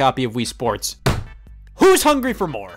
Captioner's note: table slam